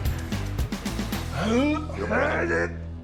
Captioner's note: grunting